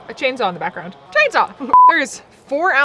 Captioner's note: beep